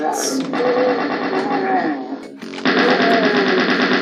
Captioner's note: DOOM monster groaning; gunfire